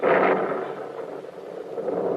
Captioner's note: thunder